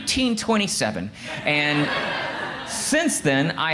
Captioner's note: crowd laughs